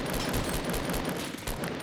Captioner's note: gunfire